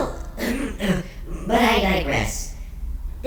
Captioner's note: clears throat